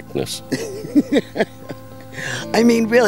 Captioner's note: woman laughing